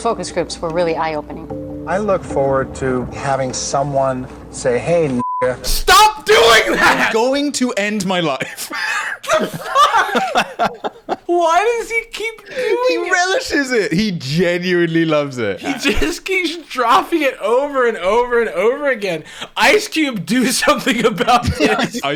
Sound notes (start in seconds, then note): 5.2 beep; 8.4 laughing